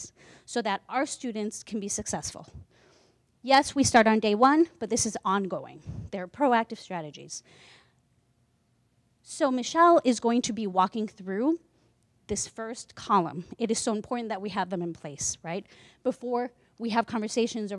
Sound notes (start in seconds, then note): none